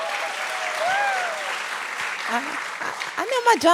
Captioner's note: cheering; laughter, applause